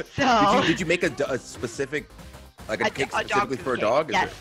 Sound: laugh

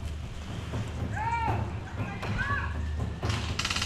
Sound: enemies shouting at each other

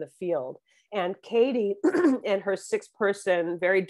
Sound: clears throat

